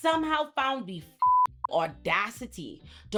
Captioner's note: beep